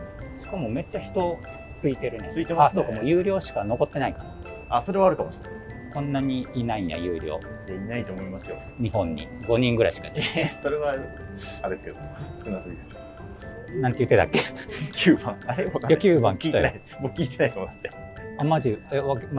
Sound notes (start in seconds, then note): 12.7 laughing